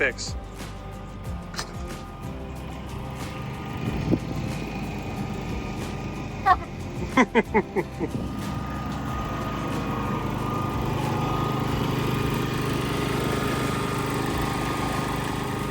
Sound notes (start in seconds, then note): 0.2 generator whirring; 6.3 laughing; 9.3 generator whirring